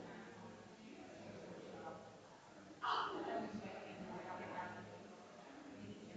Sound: people chattering distantly continues

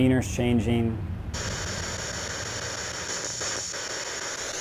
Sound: static

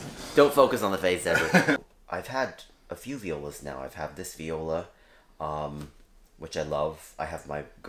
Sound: laugh

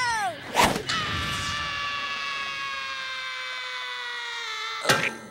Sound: screaming

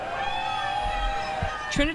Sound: NATS Honk, people cheering

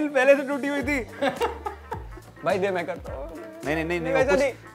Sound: laughs

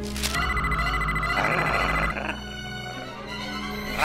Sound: alarm ringing

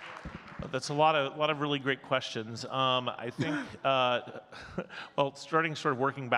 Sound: audience clapping; chuckles

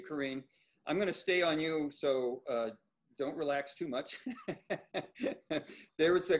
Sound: laughs

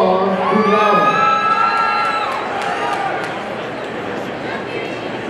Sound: audience cheering

